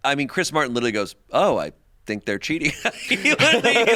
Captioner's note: laughs